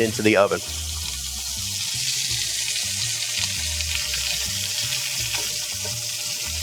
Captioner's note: bright music; chicken sizzling